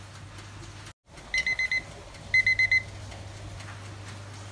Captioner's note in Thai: เสียงนาฬิกาจับเวลาดัง